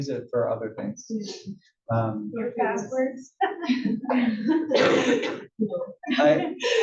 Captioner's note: laugh